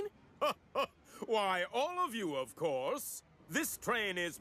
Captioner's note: chuckles